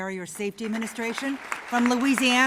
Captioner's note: applause